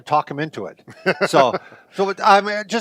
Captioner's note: laughing